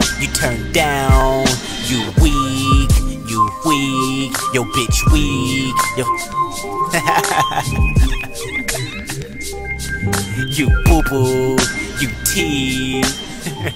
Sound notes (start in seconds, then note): 6.9 laughing